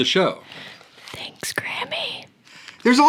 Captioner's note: whispers